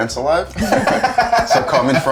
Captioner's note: laughing